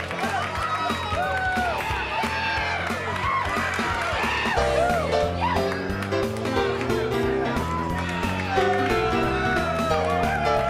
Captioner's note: crowd cheering